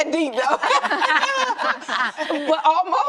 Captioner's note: ladies laughing